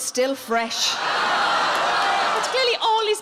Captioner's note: audience groan